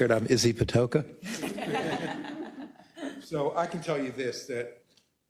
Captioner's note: laugh